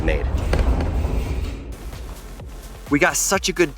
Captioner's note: rock rumbling